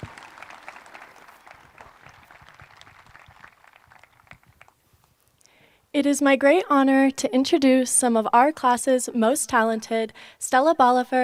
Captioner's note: applause